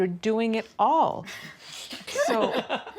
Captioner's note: laughter